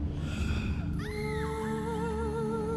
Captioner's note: woman screaming in distance